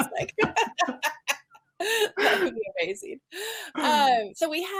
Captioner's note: laughs